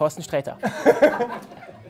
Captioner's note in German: Lachen